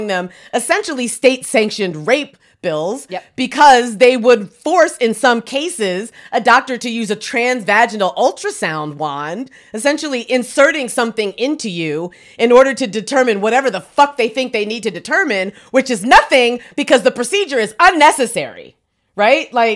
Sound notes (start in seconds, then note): none